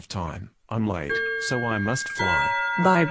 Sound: clock chiming

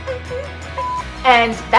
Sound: beep

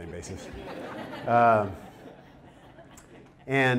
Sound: audience laughter

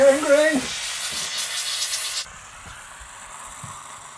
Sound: shouting; pot hissing

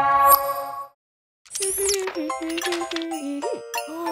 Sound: humming

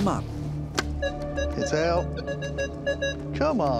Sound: beeping

